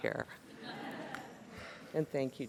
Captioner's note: laughter